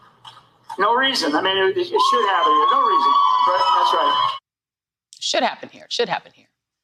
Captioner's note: cheers and applause